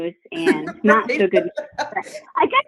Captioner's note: laughs